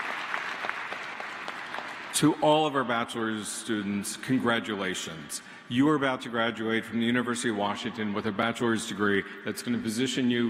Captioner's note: applause